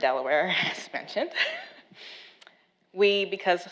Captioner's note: laughs